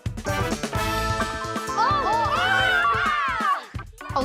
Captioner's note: all exclaim